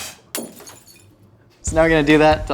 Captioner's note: spits; glass shatters